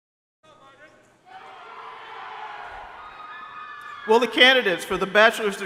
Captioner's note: crowd cheering